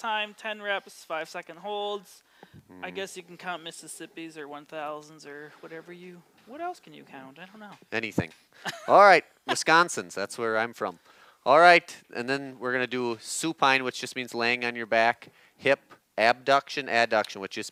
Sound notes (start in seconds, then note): 8.6 laughs